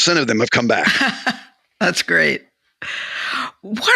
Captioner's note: laughs